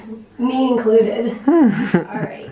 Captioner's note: chuckles